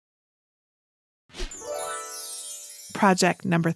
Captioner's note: bells twinkle